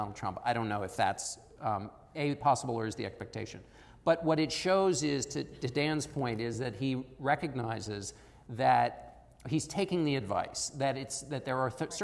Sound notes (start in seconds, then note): none